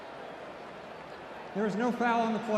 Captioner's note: crowd booing